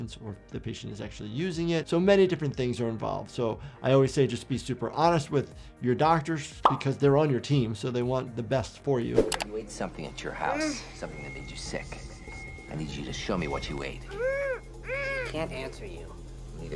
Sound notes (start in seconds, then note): 14.0 patient whimpering